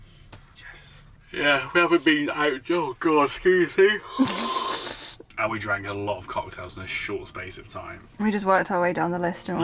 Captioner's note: yawns